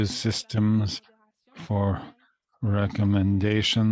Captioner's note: speaking French